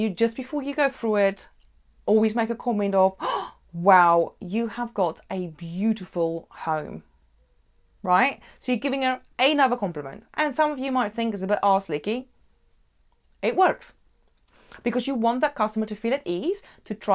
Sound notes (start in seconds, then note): 3.2 gasps